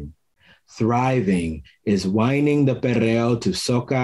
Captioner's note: foreign language